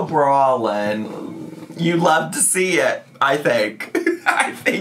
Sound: chair scraping

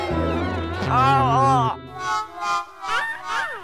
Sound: yelps

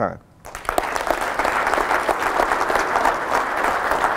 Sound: applause

